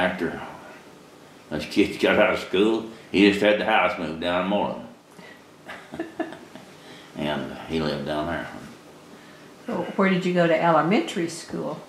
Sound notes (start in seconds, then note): 5.6 laughter